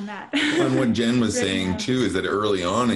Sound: chuckles

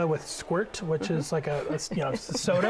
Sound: laughter

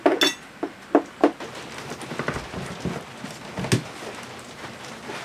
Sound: rain splatters

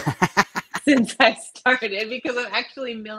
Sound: laughs

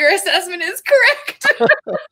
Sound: both laugh

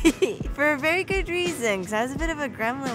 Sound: chuckling

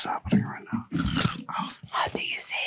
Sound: cucumber crunching

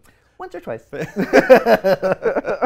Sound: laughs

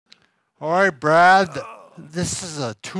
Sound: groans

